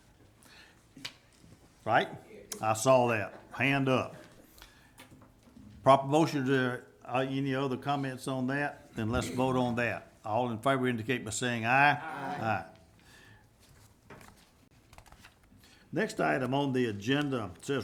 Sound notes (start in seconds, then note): 11.9 group chanting